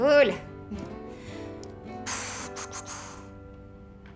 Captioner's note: exhaling